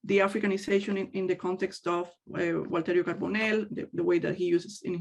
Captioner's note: speaks in native language